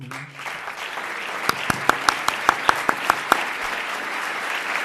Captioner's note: audience applauds